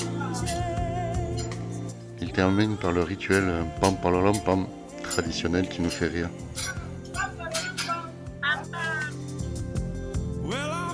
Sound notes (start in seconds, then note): 8.4 laughs